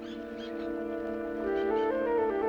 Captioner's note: jungle birds calling